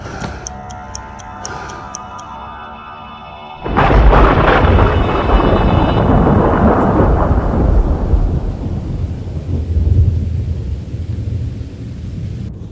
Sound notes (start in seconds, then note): 3.7 thunder claps; 3.9 eerie music continues